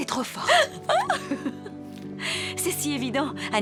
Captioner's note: laughs